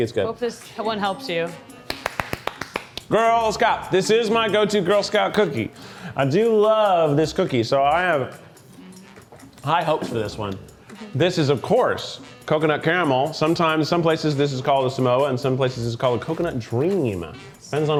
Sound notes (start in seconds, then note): 1.8 clapping